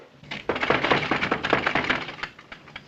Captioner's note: Knocking